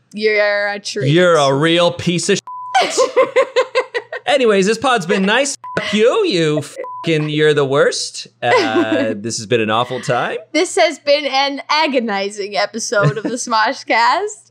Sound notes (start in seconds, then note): 2.4 beep; 2.8 laughing; 6.5 beep